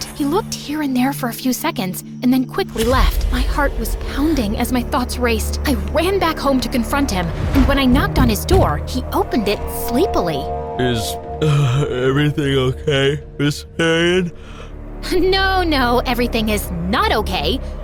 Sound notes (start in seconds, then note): 11.4 yawning